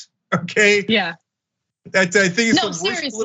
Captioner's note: laugh